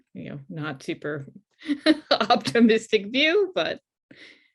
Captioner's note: laughs